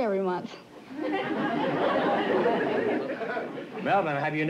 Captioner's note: laughter